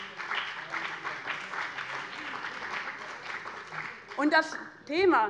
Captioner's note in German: Beifall bei dem BÜNDNIS 90/DIE GRÜNEN und der CDU